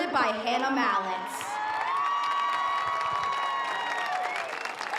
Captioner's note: audience cheers